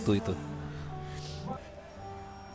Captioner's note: Vania sobbing